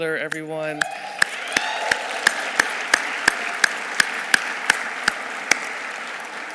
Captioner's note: audience cheering; audience applauding